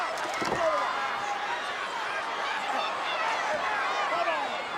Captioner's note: audience chattering